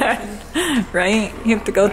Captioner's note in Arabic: الأم تضحك